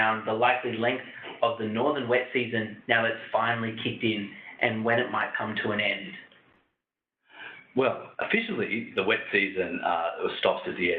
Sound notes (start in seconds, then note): none